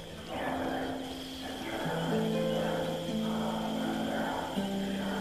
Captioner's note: mysterious whisper chanting; mysterious harp music